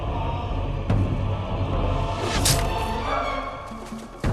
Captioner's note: air whooshes, thwack!